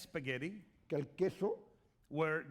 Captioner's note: speaking spanish